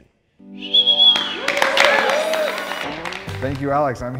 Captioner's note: audience whistling and clapping